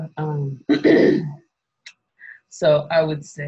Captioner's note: clears throat